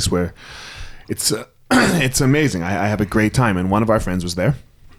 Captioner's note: clears throat